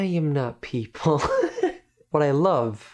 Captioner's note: laughing